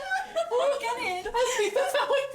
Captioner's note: laughs